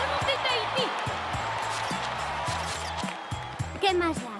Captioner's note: cheering